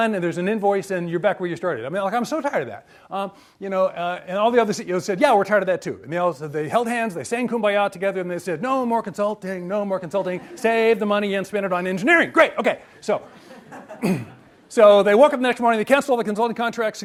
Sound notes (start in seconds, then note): 13.0 audience laughs